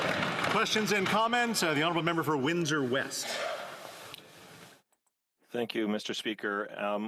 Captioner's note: applause